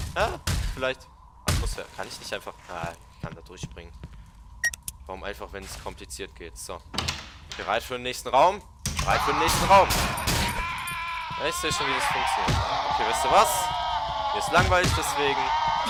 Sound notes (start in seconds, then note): 9.0 weird screams